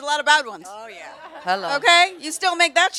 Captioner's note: audience laughs